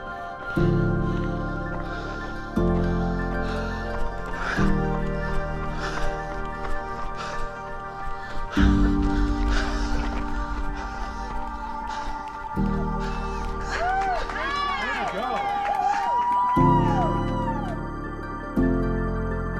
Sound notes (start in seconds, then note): 0.8 breathing heavily; 4.8 footsteps pounding; 11.9 crowd cheering and applauding